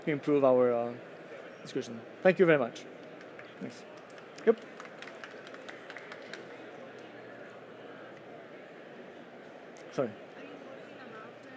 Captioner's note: applause